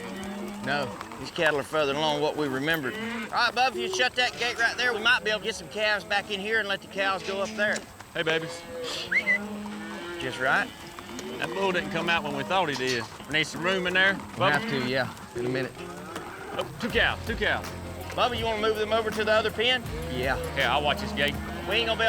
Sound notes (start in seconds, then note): 8.8 whistles